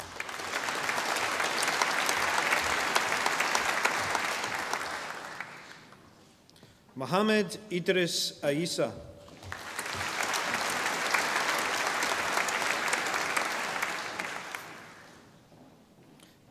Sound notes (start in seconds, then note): 0.0 audience applauding; 9.4 audience applauding